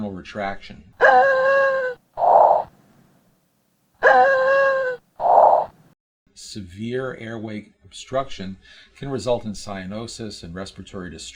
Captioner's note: sound of child labored breathing